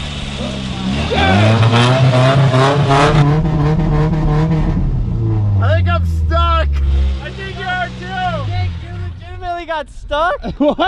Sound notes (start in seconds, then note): 2.7 engine revving